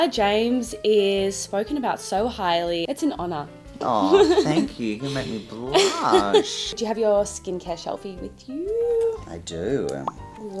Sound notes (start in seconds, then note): 3.9 giggling